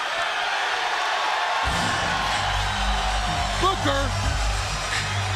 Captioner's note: crowd cheering